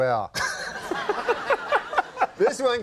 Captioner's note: Conan laughing